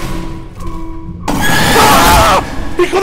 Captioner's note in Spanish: grita; Grito